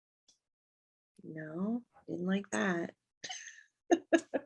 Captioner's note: laughs